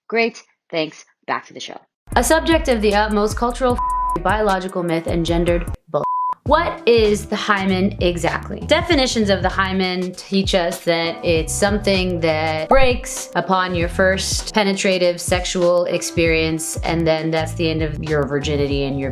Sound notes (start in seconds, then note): 3.4 beep; 6.1 beep